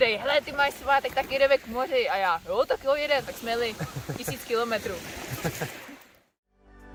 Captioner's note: haha